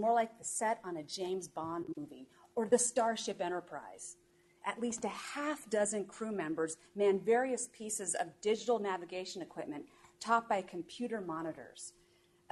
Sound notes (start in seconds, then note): none